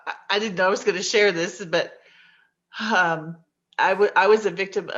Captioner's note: exhales